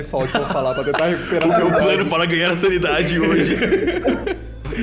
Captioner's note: laugh